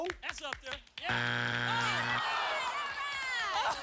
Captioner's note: buzzer